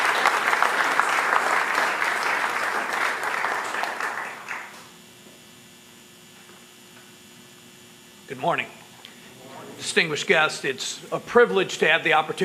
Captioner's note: applause